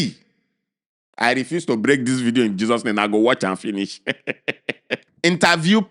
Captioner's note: chuckles